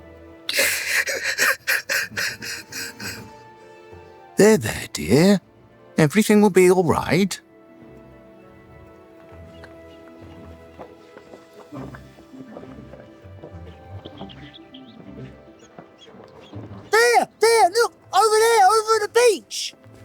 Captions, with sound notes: [LAUGH] There there, dear. Everything will be all right. There, there, look, over there, over the beach.